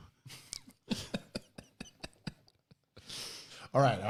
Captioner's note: laughing